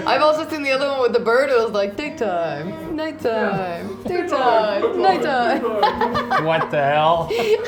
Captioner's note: I Clipped Audio Laughing loudly here